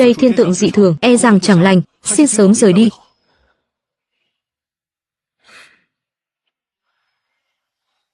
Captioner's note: khịt mũi